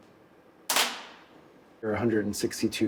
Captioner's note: camera flashes